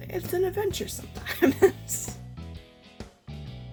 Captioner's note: laughs